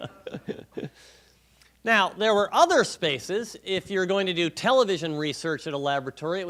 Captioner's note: laughing